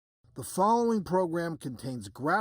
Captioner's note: voiceover